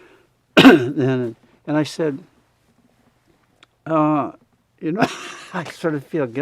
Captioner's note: laughs